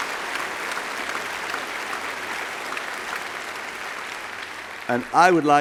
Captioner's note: applause